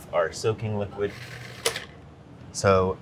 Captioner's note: processor whirring